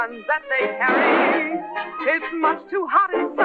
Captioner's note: gunshot